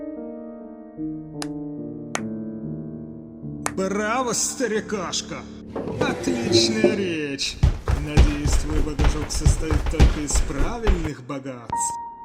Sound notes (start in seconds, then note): 1.3 handclaps